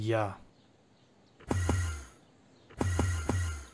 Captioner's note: Enderman teleport noises